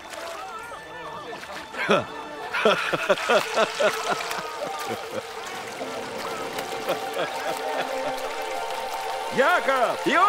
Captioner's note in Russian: раздается смех